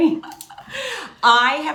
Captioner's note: laughs